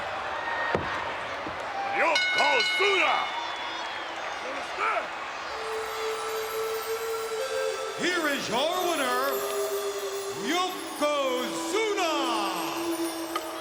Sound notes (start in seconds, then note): 2.0 bell rings; 3.9 audience cheers; 6.5 peaceful music